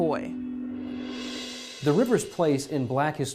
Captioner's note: swoosh